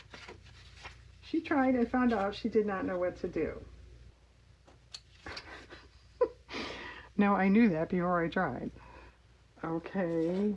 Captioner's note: laughs